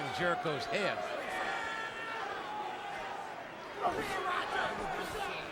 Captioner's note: crowd chattering